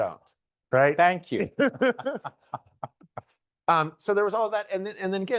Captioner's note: both laughing